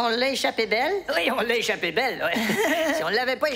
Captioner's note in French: rire